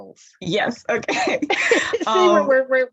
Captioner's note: laughter